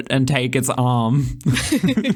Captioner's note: laugh